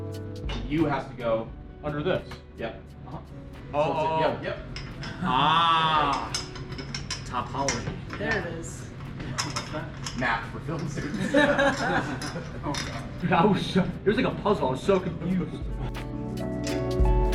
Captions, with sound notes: You have to go- - Under this? - Yep. - Oh. - Yep, yep. - Aah. (pipes clanging) Topology. - There it is. - What's that? - Math for film students. (all laughing) - Oh, God. - I was so... It was like a puzzle. I was so confused.